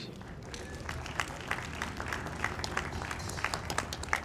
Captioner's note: audience applauds